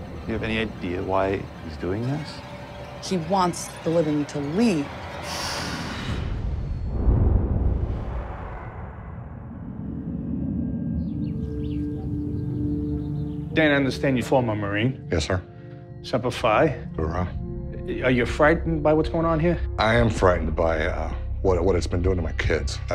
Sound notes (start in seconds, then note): 5.7 ominous whoosh; 10.8 birdsong